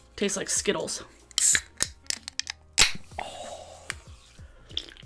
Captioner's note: cold drink can opens